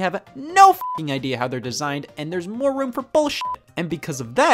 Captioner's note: beep; beep